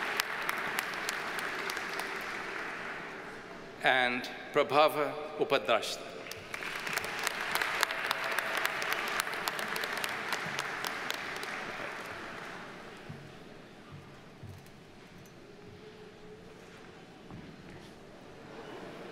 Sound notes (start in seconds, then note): 0.0 audience applauds; 6.2 audience applauds